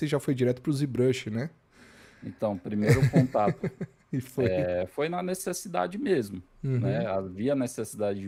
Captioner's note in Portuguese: risadas